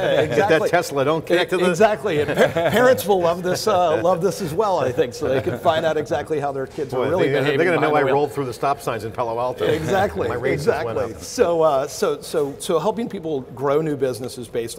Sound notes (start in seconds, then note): 9.6 laughing